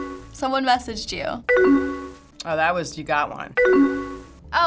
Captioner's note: tones chiming; tones chiming